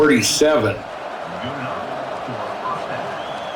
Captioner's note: crowd murmuring